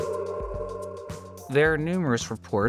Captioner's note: wolf howling sound